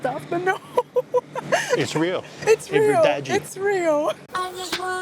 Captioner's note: laughs; in Portuguese